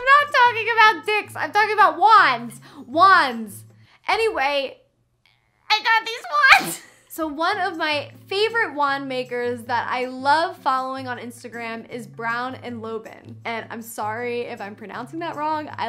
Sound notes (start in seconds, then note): 6.3 chuckles